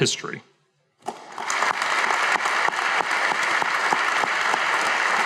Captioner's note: audience applauding